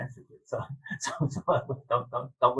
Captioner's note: laughing